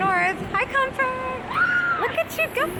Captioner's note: screaming